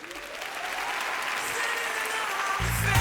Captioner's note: audience applauds